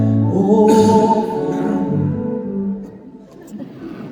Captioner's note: clears throat